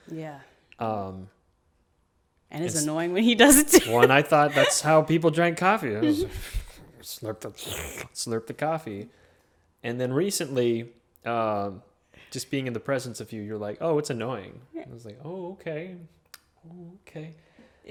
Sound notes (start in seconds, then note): 3.4 laughs; 7.5 slurping noises